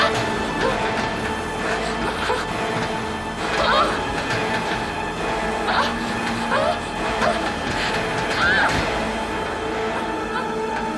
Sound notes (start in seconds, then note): 3.4 Cathy crying